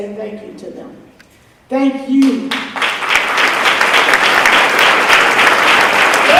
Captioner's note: applause